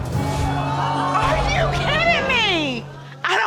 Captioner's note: audience exclaiming